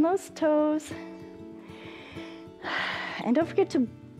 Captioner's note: inhales and exhales